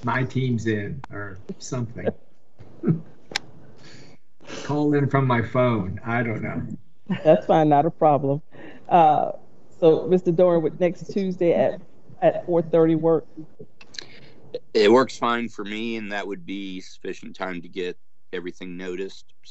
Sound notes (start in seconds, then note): 2.8 chuckling